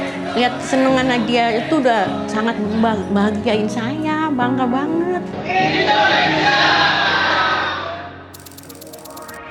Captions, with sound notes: Seeing her happy makes me so proud. [crowd] Indonesia!